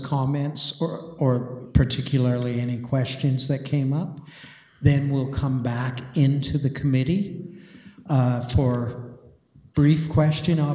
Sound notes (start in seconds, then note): none